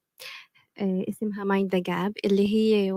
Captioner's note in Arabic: لغة أجنبية